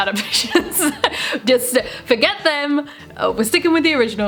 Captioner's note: laughs